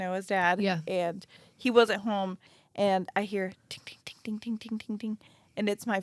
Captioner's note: imitates sound